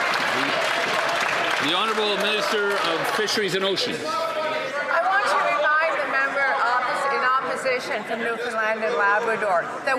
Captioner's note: some Applause